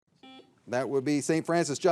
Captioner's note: signal beeps